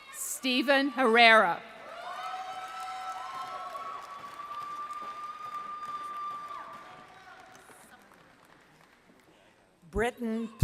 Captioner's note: applause